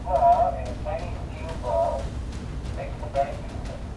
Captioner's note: soldier chatters